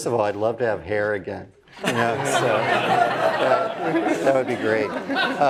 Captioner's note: laugh